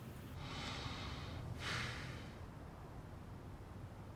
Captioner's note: man sighs